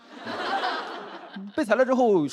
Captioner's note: laughter